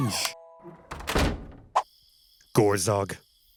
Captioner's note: door clicks